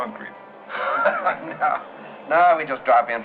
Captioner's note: laughing